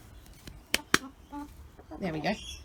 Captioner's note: slaps leg